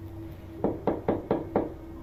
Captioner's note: knocks